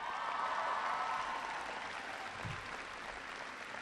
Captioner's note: applause